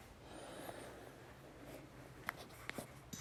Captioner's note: breathe